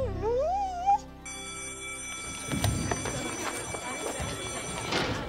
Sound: school bell rings

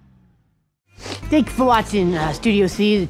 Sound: sniff

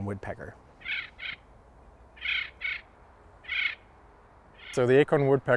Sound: bird calling

